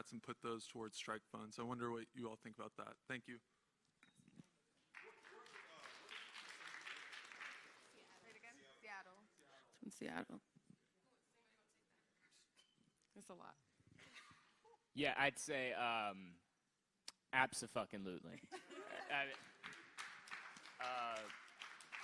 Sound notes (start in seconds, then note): 11.4 applause